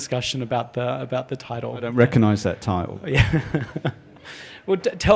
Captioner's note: laughter